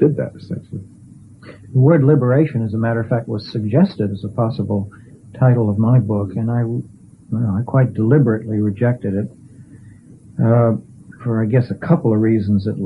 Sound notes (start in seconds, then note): none